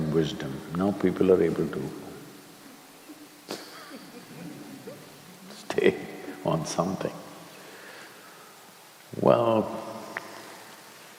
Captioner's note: few laugh